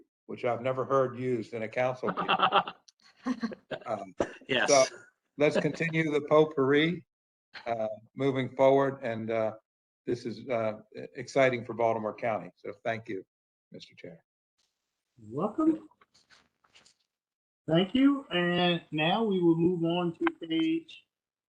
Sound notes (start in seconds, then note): 2.0 laughter